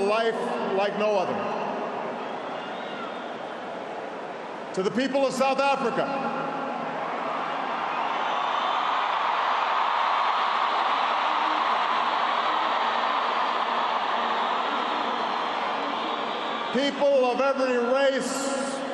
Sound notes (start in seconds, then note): 6.9 applause